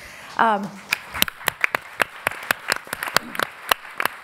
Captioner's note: applauding